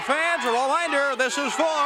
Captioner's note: crowd cheering